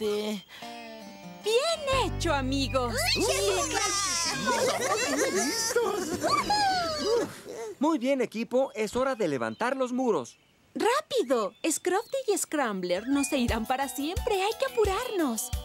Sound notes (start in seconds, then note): 3.0 machines Cheer